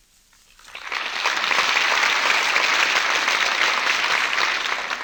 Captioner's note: applause